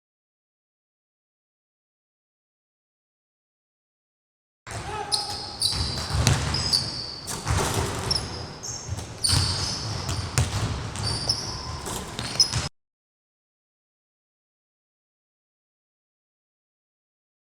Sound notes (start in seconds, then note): 5.5 shoes squeaking